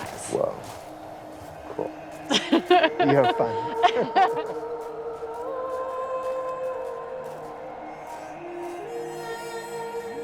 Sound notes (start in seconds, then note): 2.2 laughing; 5.3 wind blowing; 7.5 peaceful music